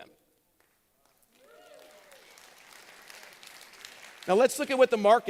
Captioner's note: applause